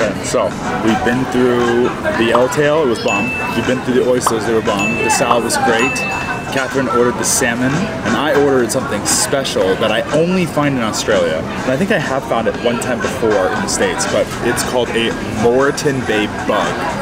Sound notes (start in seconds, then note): 2.3 bubble popping; 3.0 bell dinging; 6.0 bubble popping; 6.4 bell dinging